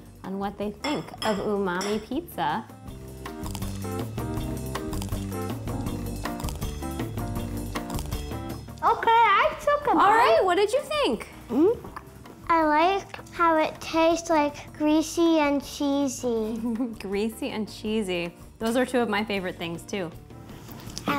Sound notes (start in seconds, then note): 4.8 crunching; 16.6 chuckles